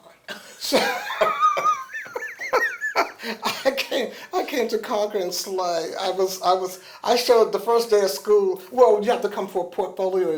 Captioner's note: laughter